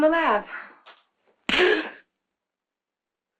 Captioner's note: gasping